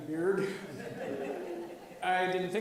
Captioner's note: audience laughs